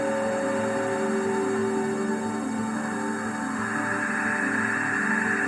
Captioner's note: pulse slows, raising in pitch